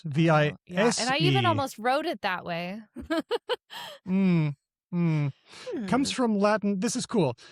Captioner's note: laughs